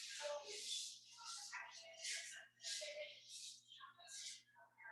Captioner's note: people chattering indistinctly